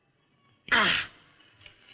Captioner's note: grunts